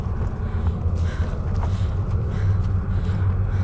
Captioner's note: breathing heavily